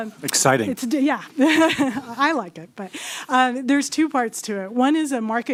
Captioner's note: laughter